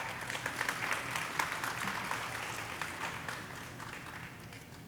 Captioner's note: audience applauding